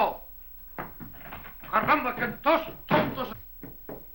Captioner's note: speaking spanish